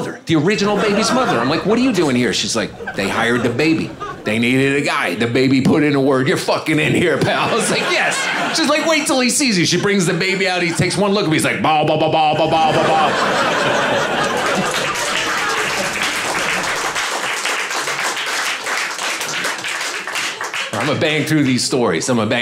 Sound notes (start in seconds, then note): 13.4 audience laughing; 14.4 audience applauding